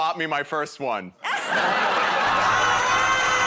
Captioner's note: laughter